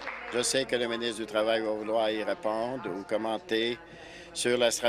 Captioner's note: applause